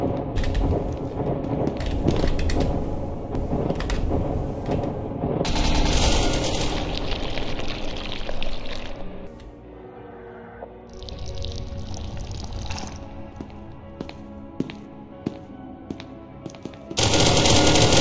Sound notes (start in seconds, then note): 5.2 gunshots